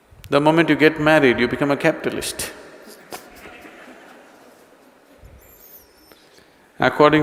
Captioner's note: laughter